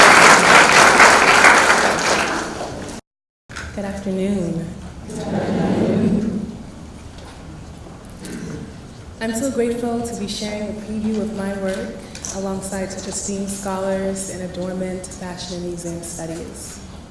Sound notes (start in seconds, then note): 5.0 crowd